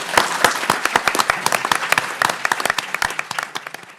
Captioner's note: everyone applauding